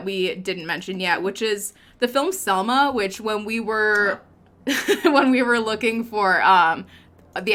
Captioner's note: laughs